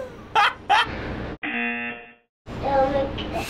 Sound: buzzer

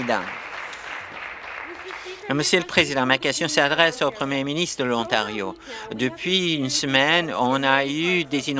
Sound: applause

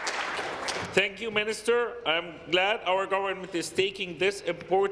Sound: applause

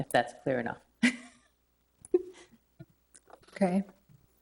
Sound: chuckles

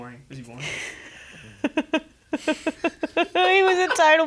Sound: Cass laughs

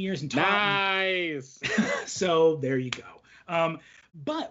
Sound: laughs

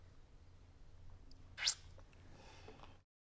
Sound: slurps, sighs

